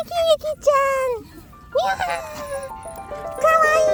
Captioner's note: dog speech